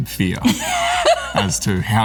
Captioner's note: Laura laughs